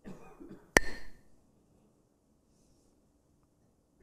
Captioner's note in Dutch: klakt met stokjes